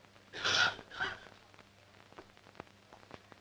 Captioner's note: coughing